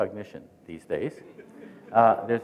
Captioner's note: chuckling